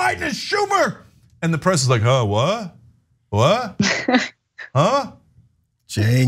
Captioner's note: laugh